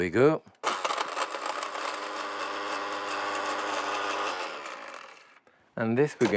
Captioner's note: blender whirring